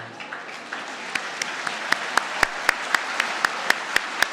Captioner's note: audience clapping